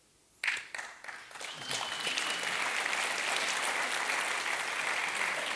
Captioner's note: applause